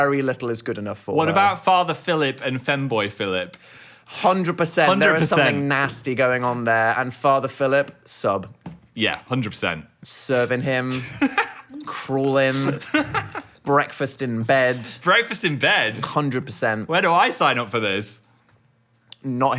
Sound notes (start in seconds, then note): 12.4 laughing